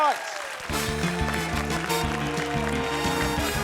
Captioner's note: cheering, applause